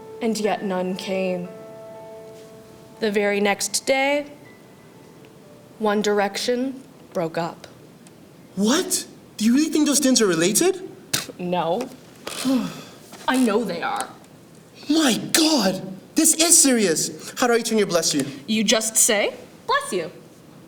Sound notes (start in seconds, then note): 12.2 scoffs; 12.4 relieved sigh